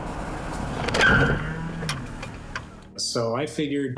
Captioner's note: tires screeching